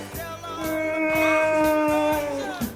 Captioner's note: Heult